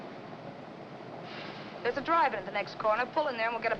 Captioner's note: sighs